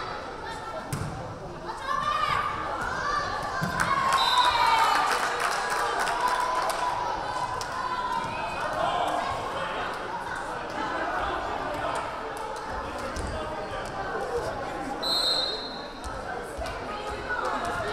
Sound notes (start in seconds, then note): 3.5 crowd cheering; 4.2 whistle blaring; 15.0 whistle blaring